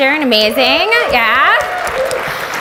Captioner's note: audience applauds